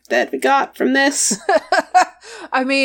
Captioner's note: laughs